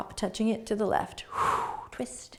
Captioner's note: exhaling